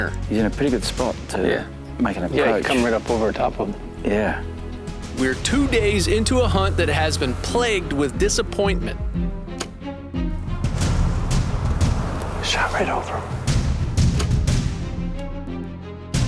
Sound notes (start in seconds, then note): 10.1 dramatic music; 12.6 whispering